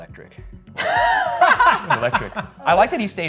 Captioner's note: laughing